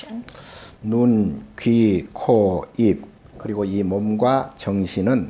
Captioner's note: speaking Korean